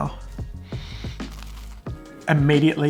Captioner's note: sniffs